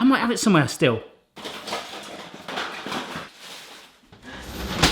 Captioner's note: drawers clanging